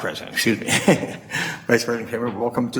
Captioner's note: chuckles